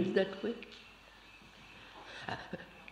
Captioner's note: laughter